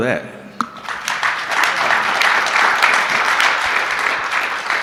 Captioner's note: audience clapping